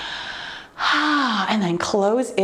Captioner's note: exhales sharply